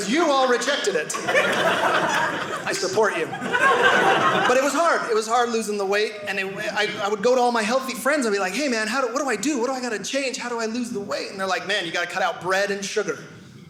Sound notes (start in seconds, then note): 3.2 audience laughing